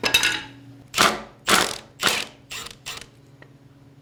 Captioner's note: drilling